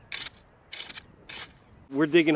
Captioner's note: wind